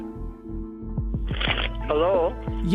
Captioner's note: phone ringing